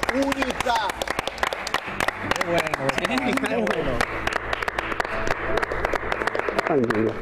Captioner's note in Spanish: aplausos